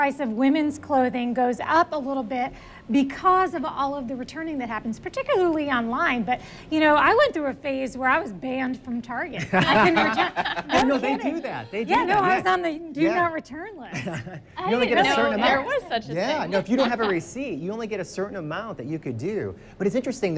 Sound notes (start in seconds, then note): 16.6 laughs